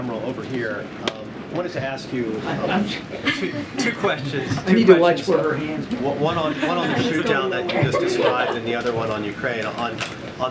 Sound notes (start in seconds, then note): 5.4 laughs; 6.2 laughter